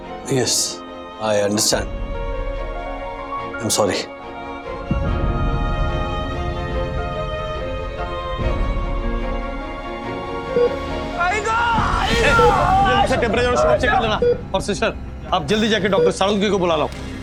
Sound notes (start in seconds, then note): 4.9 sad music; 10.6 machine beeps